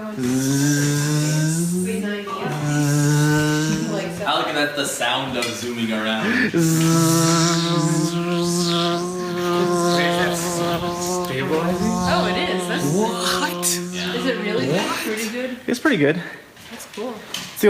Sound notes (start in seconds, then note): 0.0 buzzing noises; 6.4 buzzing noises continue